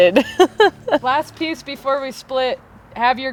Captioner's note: laughing